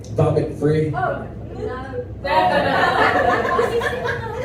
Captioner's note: crowd groaning